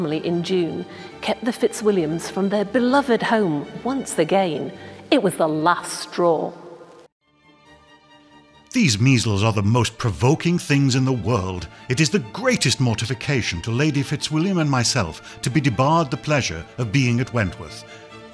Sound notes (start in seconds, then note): none